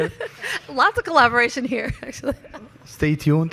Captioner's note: laughs